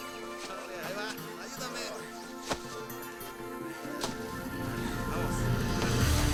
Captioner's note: slow guitar music; men speaking in foreign language